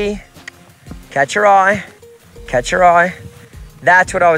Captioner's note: mouth clicking